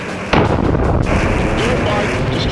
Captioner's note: explosion booms